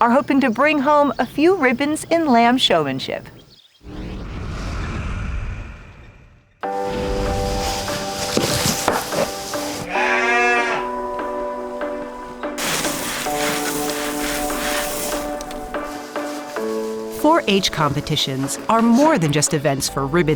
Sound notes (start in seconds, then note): 4.6 tractor engine; 9.8 bleating